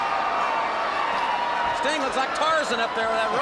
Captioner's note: crowd chatter